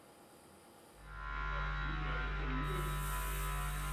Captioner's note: whirring